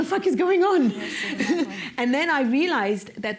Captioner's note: laughter